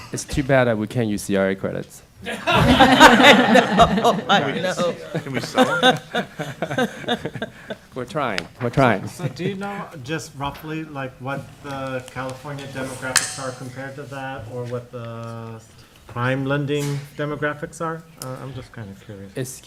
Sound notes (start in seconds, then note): 2.2 laughter